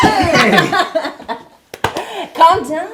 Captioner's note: Kim laughs